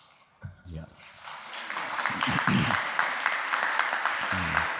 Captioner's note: applause